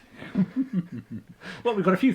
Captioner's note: chuckling